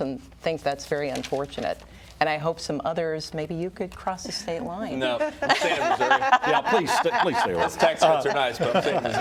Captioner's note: laughter